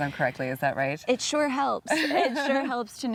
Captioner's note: laughing